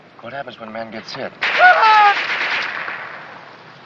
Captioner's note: man screams